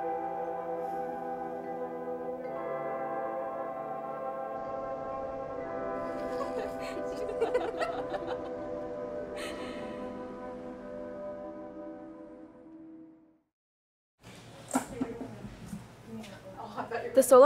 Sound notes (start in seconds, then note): 6.0 girls Laughing; 14.6 thump